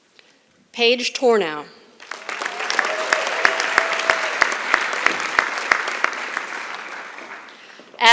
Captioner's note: applause